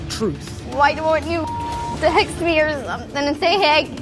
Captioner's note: beeps